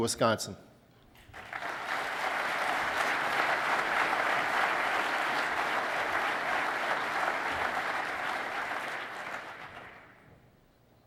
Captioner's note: applause